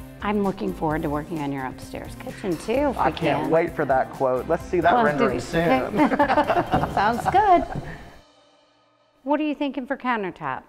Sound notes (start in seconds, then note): 5.6 laugh